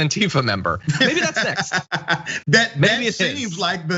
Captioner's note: laugh